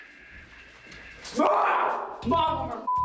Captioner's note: yells indistinctly